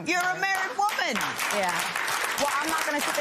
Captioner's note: applause